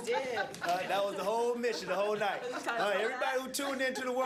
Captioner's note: laughter